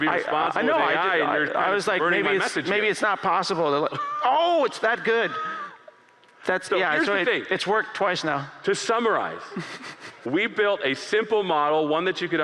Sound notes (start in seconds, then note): 3.8 laughter